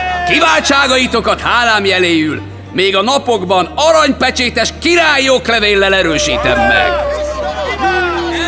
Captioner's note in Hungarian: Éljenzés